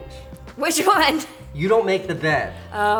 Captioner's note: laughs